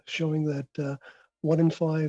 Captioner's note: speaking in French